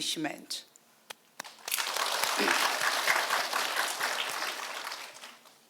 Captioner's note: audience applauding